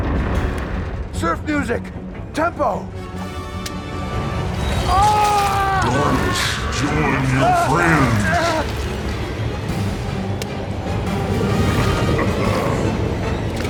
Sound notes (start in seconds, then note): 4.8 screams; 10.1 intense music continues